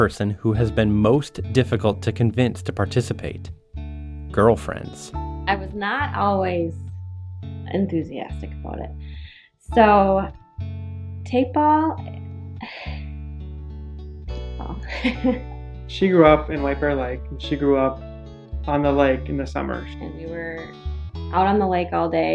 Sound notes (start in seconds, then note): 12.6 sighs; 14.6 laughs